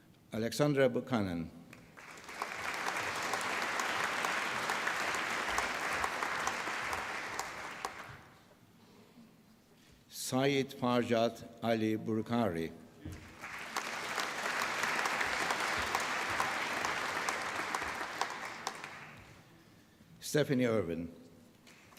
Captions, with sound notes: Alexandra Buchanan. (APPLAUSE) Syed Farjad Ali Bukhari. (APPLAUSE) Stephanie Irvine.